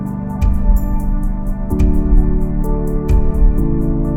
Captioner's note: soft booms